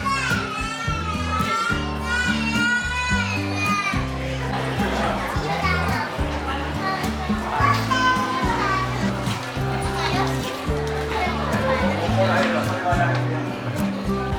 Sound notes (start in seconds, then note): 8.6 laughs